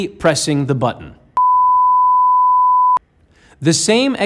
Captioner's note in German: Piepton